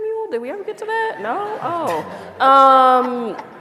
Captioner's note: laughter